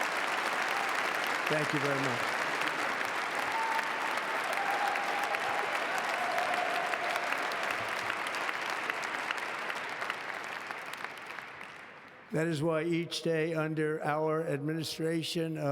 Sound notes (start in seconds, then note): 4.2 applause